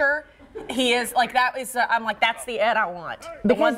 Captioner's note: laughter